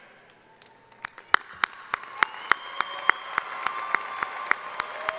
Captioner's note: crowd applauding